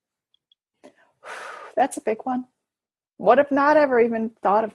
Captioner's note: exhales loudly